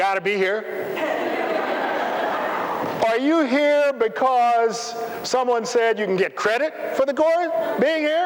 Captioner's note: laughter